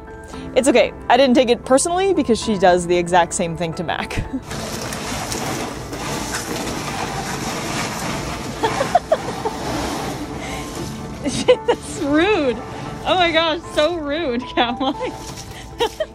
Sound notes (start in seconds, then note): 4.6 background music; 4.6 ice shuffling noise; 8.5 laughs; 11.1 laughing